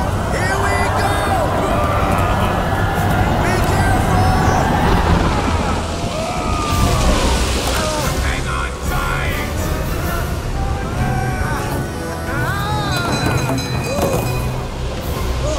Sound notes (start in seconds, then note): 6.1 sailors yell; 11.6 ship's bell rings; 12.2 he yells